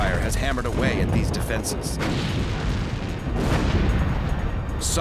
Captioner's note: gunfire